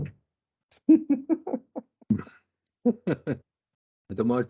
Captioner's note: laughter